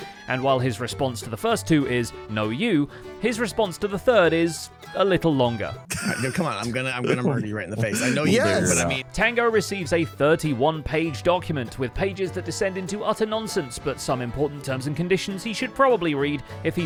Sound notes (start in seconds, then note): 5.9 laughs